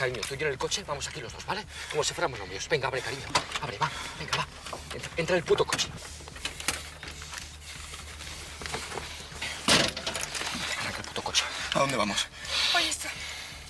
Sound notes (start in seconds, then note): 9.7 door slams